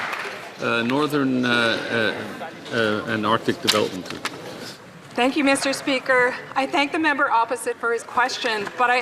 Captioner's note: some Applause